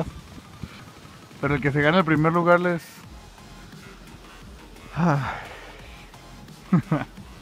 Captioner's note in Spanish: suspiro